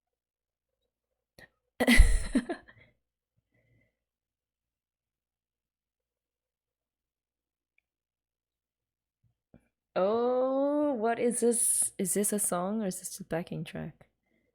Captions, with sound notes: [laughs] Ohh! What is this - is this a song or is this a backing track?